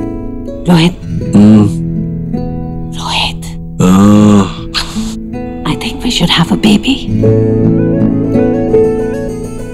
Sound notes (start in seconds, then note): 4.7 Kisses